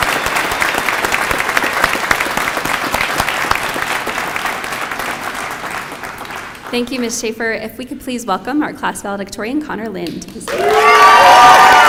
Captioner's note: applause